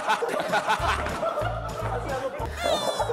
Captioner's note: everyone's dying laughing